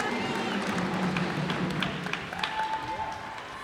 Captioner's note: cheers and applause